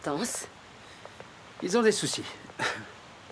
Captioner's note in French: chuckling